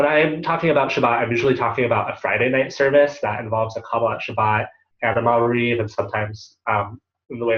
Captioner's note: Hebrew